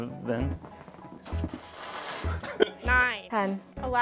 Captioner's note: fart